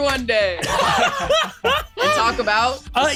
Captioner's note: laughs